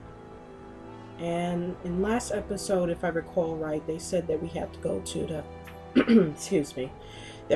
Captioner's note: clears throat